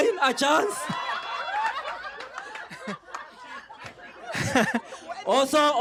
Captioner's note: laughter